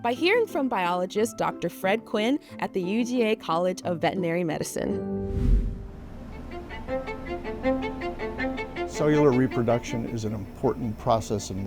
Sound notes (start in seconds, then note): 4.9 lively music; 5.2 screen whooshes